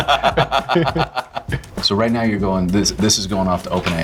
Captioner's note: laughing